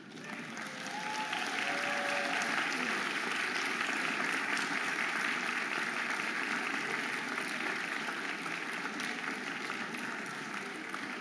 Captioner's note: audience applauding and cheering